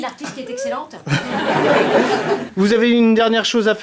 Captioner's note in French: rires